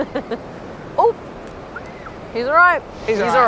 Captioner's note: kid screams